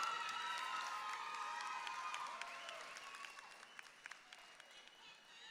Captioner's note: audience clapping and cheering